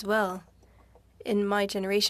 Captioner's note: speaking French